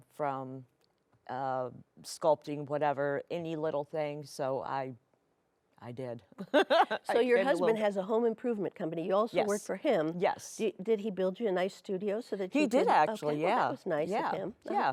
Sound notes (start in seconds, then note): 6.5 laughs